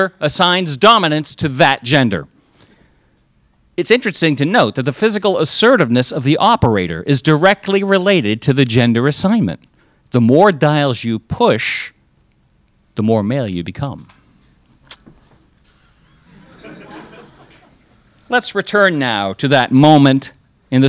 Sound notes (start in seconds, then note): 15.7 crowd laughs